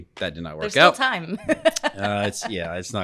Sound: laughing

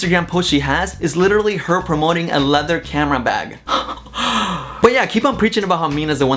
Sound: laughs

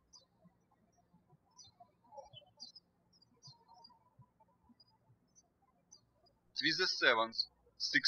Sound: birds chirping

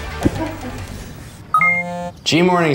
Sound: buzzing

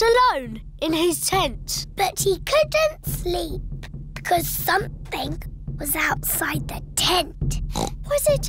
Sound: oinks

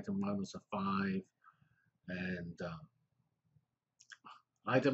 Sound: pause

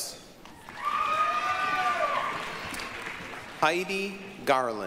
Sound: applause, cheering

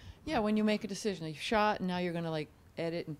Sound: voiceover

